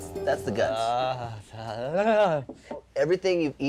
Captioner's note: groaning